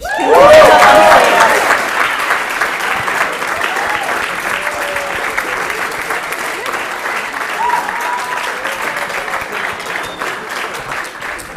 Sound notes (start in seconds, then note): 1.5 applause